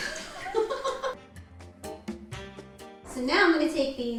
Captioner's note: laughs